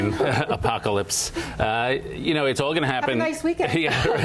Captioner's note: laughter